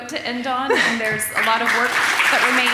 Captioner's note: audience applauding